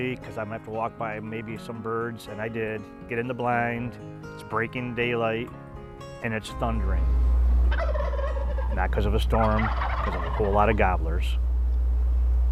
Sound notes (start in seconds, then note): 7.6 turkey gobbles